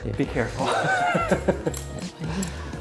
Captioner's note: chuckling